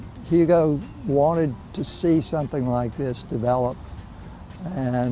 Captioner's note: voiceover